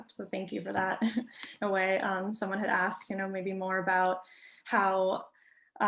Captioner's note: chuckles